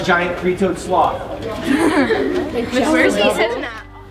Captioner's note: students laughing